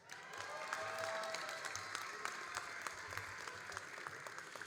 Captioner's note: all applauding and cheering